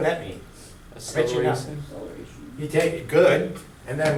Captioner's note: voiceover